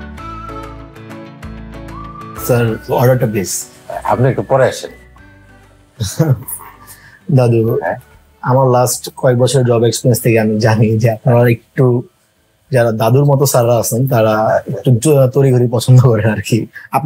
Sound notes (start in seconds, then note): none